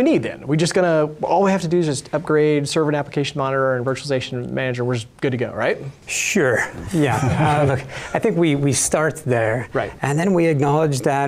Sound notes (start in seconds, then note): 6.9 laughter